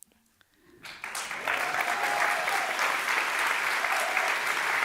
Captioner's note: audience applause